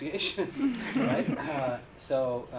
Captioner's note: laughter